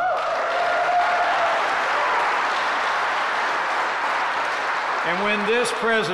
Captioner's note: applause